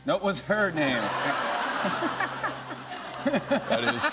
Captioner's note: laughter